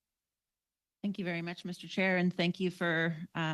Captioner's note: speaking french